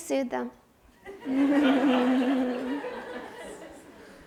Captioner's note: audience laughs